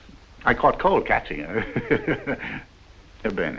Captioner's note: laughs